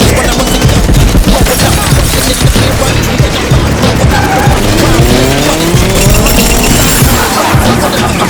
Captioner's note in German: Schüsse